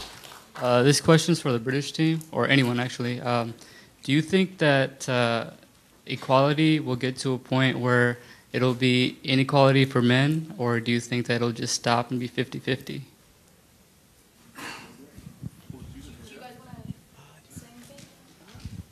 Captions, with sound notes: - [Voiceover] This question is for the British Team or anyone actually, do you think that equality will get to a point where it'll be inequality for men or do you think that'll just stop and it'll be 50-50? - Do you guys want to answer?